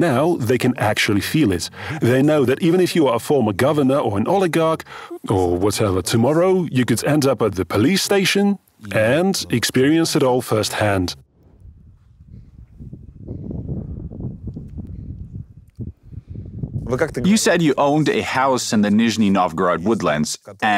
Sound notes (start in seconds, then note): 13.2 light wind